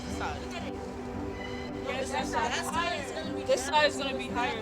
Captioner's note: kids chatting